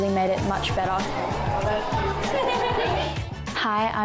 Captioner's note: people chattering